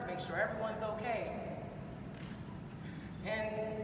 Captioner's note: none